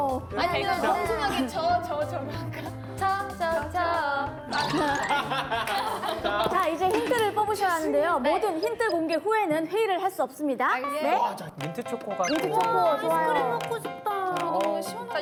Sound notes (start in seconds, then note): 4.5 laughing